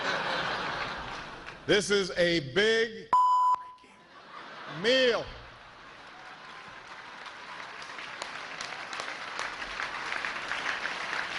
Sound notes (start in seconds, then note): 5.8 cheers and applause; 6.3 laughter